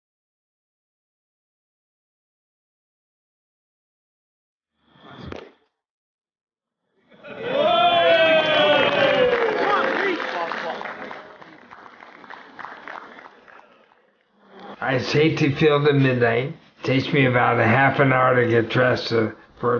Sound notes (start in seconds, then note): 7.2 cheering; 10.5 applause